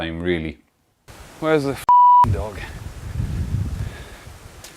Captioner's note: beep